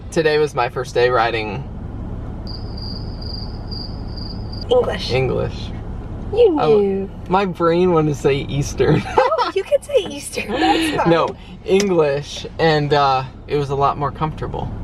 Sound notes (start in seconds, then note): 2.4 crickets chirping; 8.8 laughter